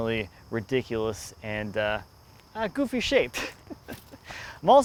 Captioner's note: laughs